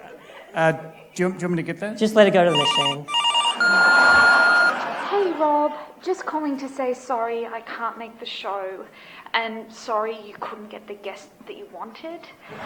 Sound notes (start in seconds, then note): 2.4 answering machine BEEP